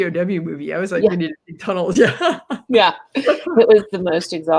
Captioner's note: laughs